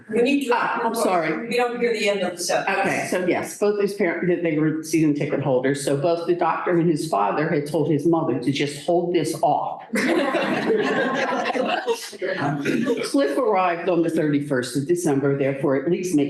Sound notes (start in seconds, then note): 9.9 laughter